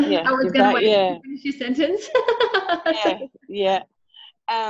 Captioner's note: laughing